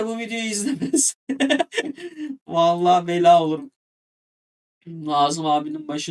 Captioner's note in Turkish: kahkaha